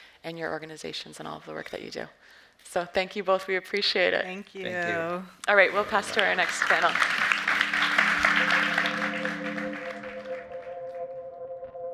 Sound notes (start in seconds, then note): 5.6 audience applauds; 8.7 suspenseful music